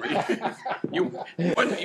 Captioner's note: laughing